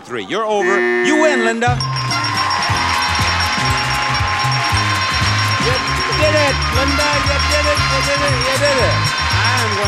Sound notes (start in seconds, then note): 0.9 buzzer; 2.6 bells; 3.4 audience cheers